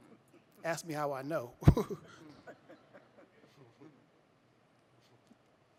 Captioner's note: audience chuckling